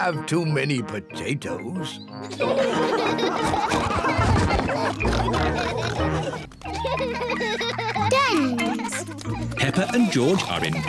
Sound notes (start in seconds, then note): 0.1 all laughing; 4.2 both laughing